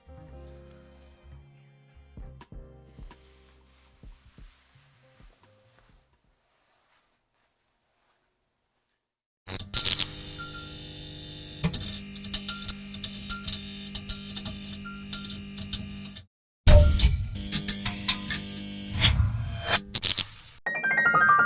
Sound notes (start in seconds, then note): 9.6 electricity buzzes; 16.7 machinery clanks; 17.3 electricity buzzes; 20.6 bright music